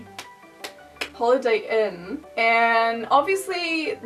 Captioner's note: clap x3